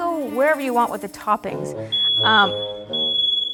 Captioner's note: comedic, mischievous music; fire alarm beeping; fire alarm starts beeping